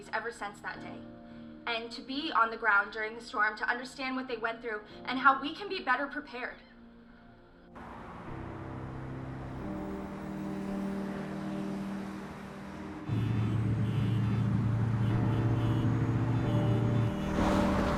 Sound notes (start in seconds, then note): 12.9 horns honking; 12.9 thunderclap